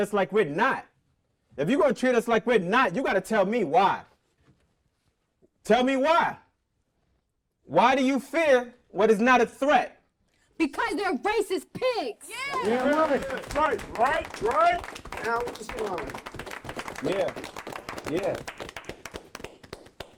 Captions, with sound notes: like we're not. If you gonna treat us like we're not, you gotta tell me why. Tell me why! Why do you fear what is not a threat? - Because they're racist pigs! - Yeah. - Damn right. (group clapping) - Right, right? (group cheering) - Yeah, yeah.